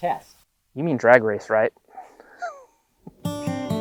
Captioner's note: laugh; rootsy acoustic music